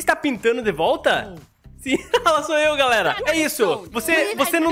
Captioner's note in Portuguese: risos